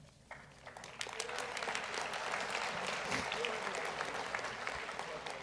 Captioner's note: audience applauds